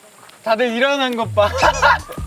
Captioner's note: laughs